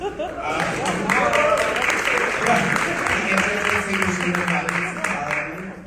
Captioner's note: audience applauding